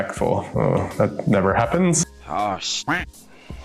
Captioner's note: groans; duck quacks